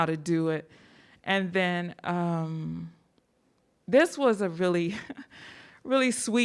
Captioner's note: laughs